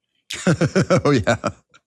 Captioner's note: laugh